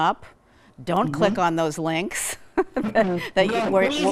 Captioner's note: laughing